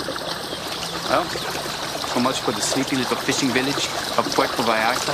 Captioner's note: Mexican accent